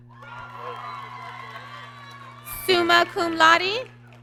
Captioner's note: applause